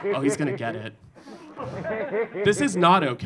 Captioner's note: audience laughing